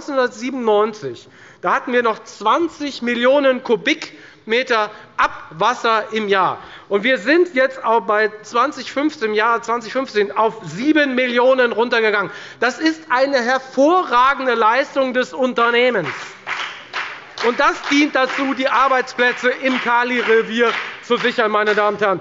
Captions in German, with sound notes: Im Jahr 1997 hatten wir noch 20 Millionen m³ Abwasser im Jahr. Wir sind jetzt im Jahr 2015 auf 7 Millionen m³ Abwasser heruntergegangen. Das ist eine hervorragende Leistung des Unternehmens. (Beifall bei der FDP) Das dient dazu, die Arbeitsplätze im Kalirevier zu sichern.